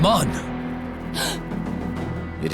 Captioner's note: gasping